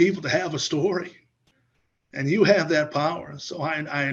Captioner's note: laughs